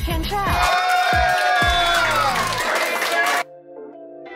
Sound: all cheering

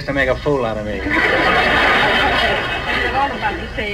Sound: audience laughs

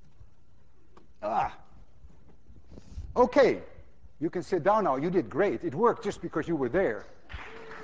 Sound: grunts; class applauds

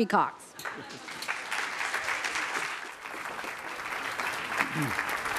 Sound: applause

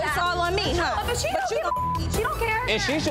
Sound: beep

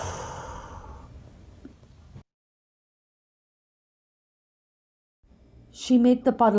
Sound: deep breath in and out

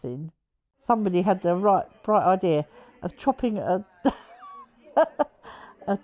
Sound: laughs

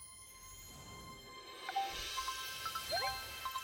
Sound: chiming

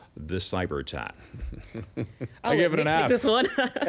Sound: laughing

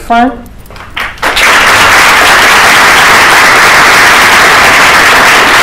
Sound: applause

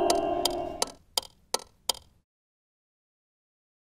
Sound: spooky organ; clock ticking

